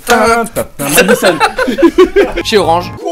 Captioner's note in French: Rires